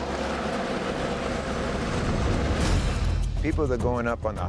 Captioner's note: sound of snow being plowed